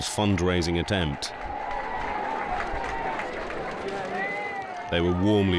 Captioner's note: crowd cheering; crowd applauding